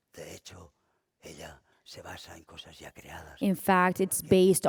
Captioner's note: speaking spanish